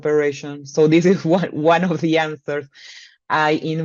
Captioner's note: chuckles